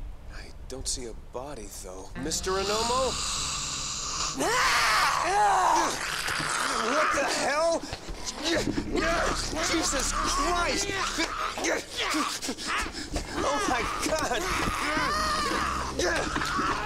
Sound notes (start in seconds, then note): 2.5 aggressive hissing before attacking yell; 9.3 woman snarling and growling; 14.7 more sounds of screaming and stuggling